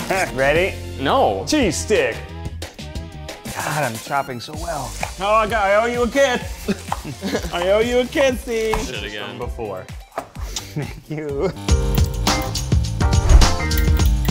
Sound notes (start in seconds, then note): 7.1 laughing; 9.9 kiss